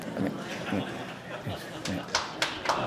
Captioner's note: applause